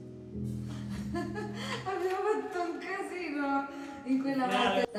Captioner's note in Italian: risate